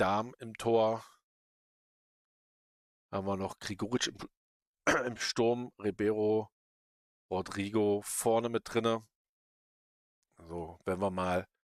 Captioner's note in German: räuspern